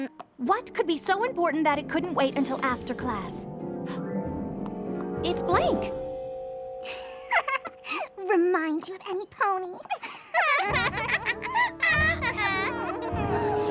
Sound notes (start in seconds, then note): 5.4 gasps; 7.3 laughs; 11.6 laughter